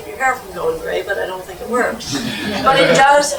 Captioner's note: laugh